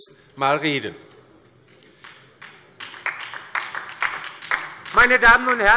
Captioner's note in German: Beifall